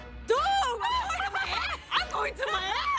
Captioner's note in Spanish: Risas